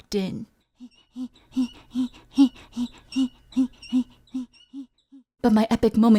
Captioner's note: cool heavy breathing and squeaky bike pedaling noises